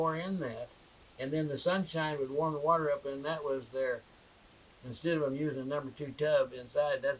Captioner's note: shower